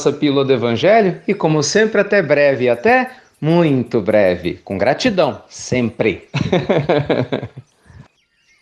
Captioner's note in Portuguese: Risos